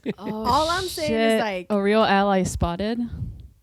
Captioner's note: laughter